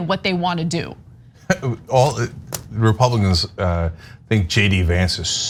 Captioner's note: laugh